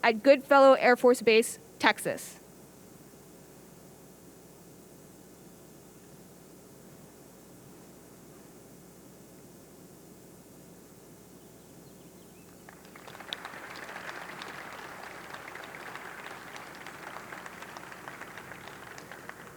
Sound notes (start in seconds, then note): 12.6 audience capping